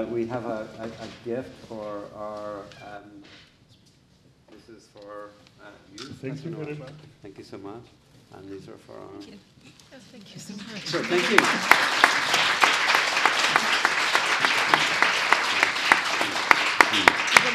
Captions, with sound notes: We have a gift for our... This is for you, Professor Nowak. - Thank you very much. - Thank you so much. And these for our... Thank you. (applause)